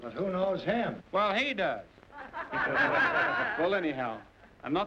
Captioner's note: laughter